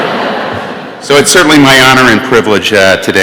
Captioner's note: laughter